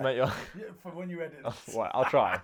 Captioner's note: laughs